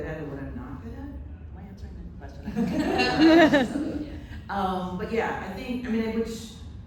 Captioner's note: laughter